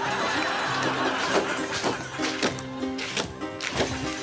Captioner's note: audience laughing